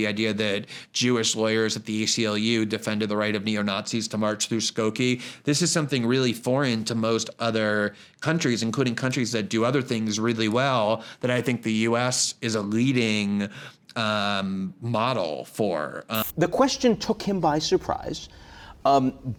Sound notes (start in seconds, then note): 16.1 screen hissing